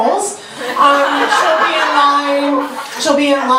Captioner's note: audience laughter